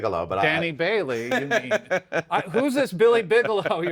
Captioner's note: both laugh